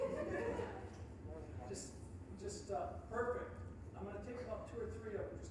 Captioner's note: all laughing